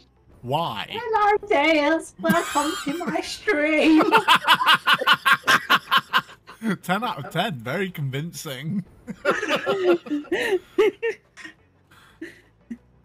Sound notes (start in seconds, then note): 3.8 laughs loudly; 9.1 all laugh